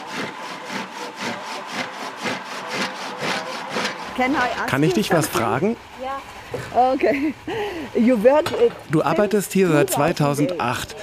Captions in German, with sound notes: (englisch:) Kann ich dich was fragen? Ja. - Okay. Du arbeitest hier seit 2008.